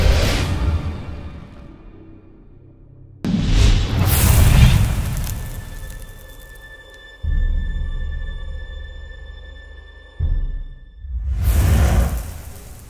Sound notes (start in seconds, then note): 3.3 crackling fire sound effect; 6.4 ambient music